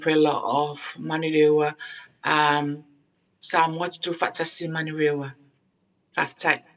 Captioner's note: speaking in foreign language